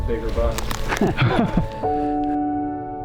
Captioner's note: laughing